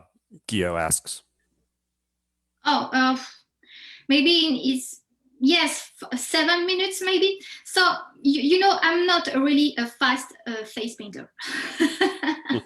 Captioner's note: laughs